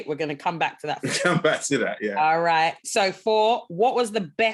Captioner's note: laughing